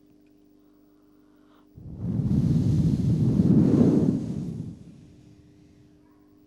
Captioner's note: shri mataji blows into the microphone